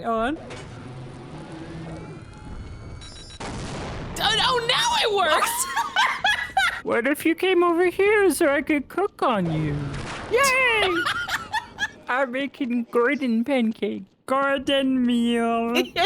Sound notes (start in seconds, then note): 5.4 both laugh; 10.4 laughs